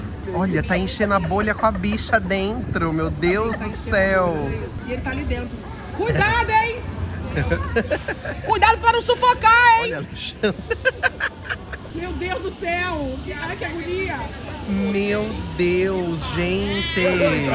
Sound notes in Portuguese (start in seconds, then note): 6.2 gritando